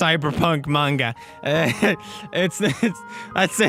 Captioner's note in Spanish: risa nerviosa